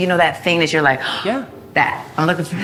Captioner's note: gasps